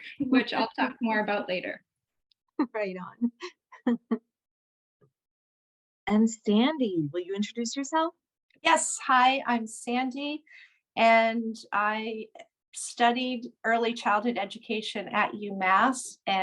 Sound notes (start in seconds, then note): 3.8 laughter